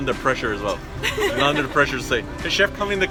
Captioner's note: laughs